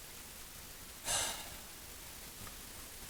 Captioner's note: sighs